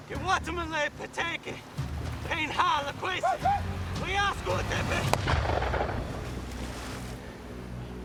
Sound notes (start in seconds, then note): 0.1 speaking native language; 5.1 gunshot